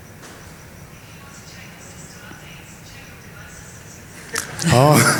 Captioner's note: on phone